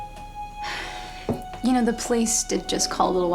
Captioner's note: sighs